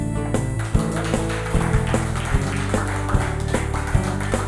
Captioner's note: audience applauding